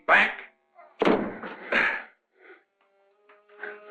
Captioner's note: Krenner panting; somber music